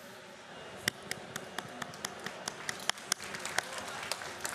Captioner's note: applause